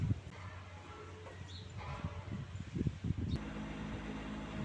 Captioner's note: birds chirruping